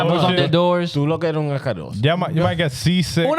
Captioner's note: speaking In Foreign Language